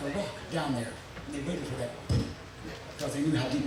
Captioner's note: thudding sound effect